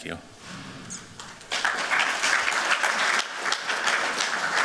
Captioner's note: applause